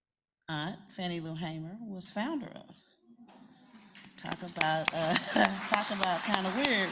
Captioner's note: applause